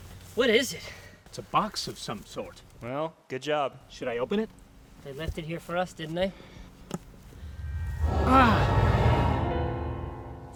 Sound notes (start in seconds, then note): 8.1 gasps; 8.1 curious piano plays